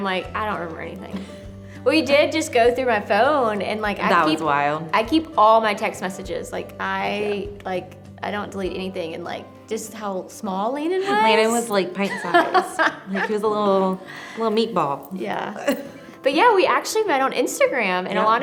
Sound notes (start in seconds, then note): 12.0 laughs